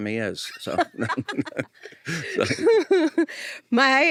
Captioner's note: laughing